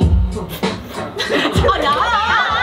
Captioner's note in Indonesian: Gagal menahan tawa